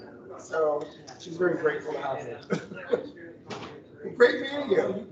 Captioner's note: chuckles